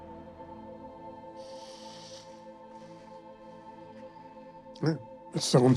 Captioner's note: inhales